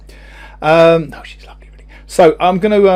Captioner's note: whispers